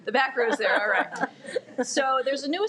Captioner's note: laugh